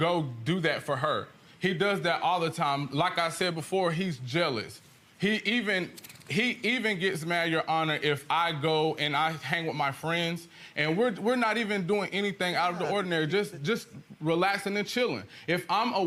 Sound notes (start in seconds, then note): none